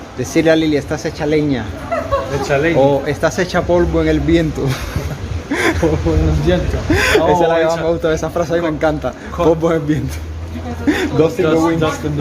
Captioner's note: laughs